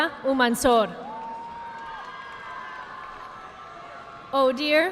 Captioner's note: audience clapping